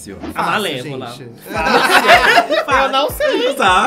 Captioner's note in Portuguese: risos